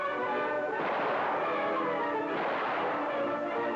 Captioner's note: guns blasting